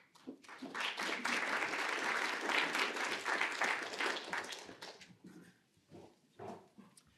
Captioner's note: applause